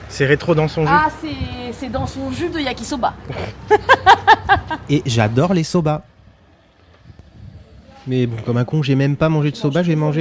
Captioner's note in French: rires